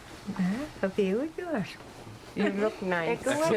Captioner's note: speaking Inuit